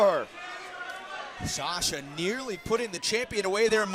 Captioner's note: crowd chatter